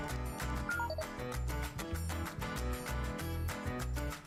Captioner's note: computer bleeps